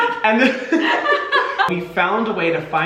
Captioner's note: Hyram laughing; laughing